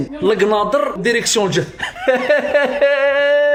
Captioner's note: laughs